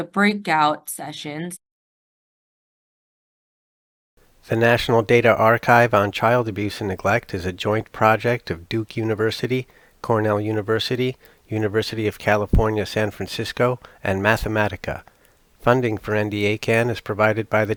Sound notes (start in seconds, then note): 2.7 voiceover